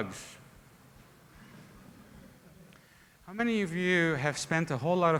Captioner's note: laughter